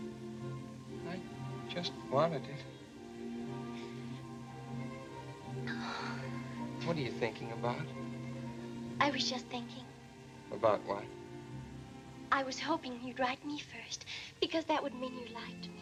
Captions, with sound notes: I just wanted it. [sighs] What are you thinking about? I was just thinking. About what? I was hoping you'd write me first because that would mean you liked me.